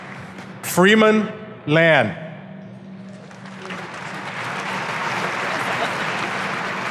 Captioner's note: audience applauding